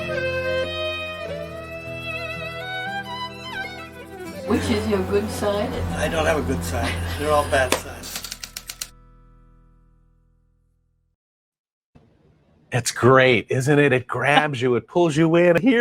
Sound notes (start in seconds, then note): 6.7 woman laughing; 8.0 typewriter clicking